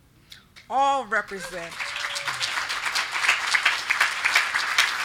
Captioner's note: group clapping